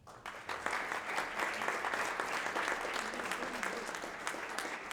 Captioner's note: audience applauding